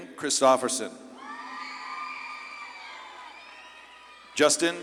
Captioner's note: audience claps and cheers